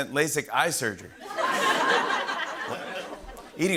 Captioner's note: laughter